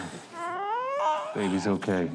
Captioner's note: baby cooing